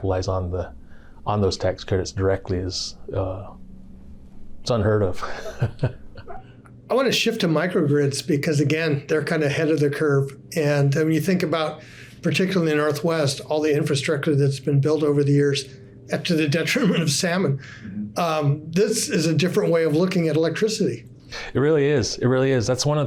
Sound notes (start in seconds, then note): 5.2 chuckling